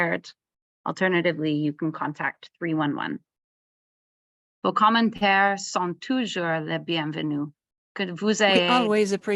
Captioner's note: French